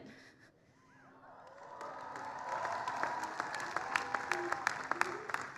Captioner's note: applause